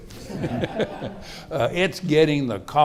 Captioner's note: audience laughing